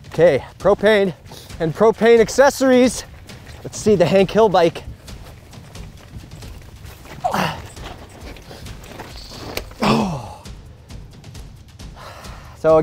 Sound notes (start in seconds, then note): 5.5 dramatic music; 7.4 huffs; 10.8 dramatic music